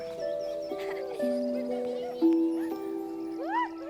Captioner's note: children laughing